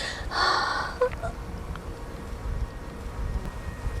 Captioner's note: cries